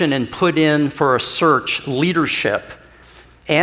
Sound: none

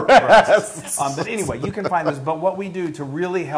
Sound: laugh

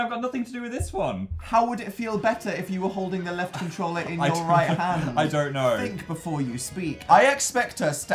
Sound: laugh

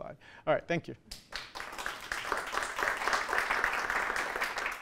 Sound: applause

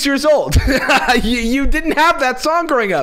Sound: laughs

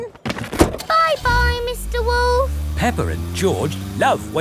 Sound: engine starts

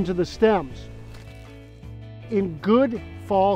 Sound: leaf crunching

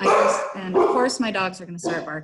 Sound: dog barking

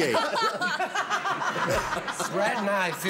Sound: laughter

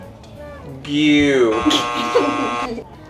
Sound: buzzer buzzing

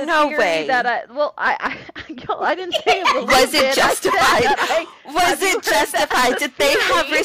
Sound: laughter

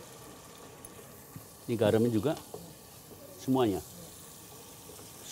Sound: sizzling sounds

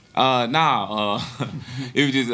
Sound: chuckles

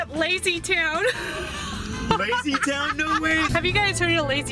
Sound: laughing

